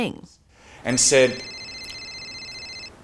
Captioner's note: phone rings